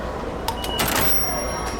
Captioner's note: beeps